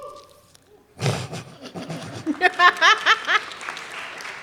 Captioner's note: laughter; cheering